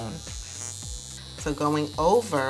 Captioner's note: device buzzing